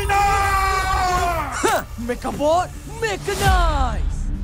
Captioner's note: Amato grunts